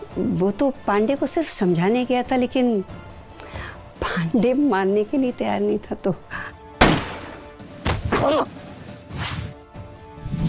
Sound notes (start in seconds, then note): 6.8 gunshot; 8.2 Pandey screams